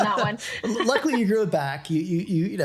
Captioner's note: both laughing